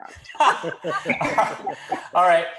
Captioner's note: laughs